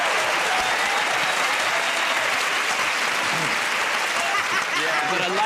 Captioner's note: laughter